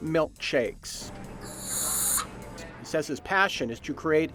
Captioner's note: nozzle whooshing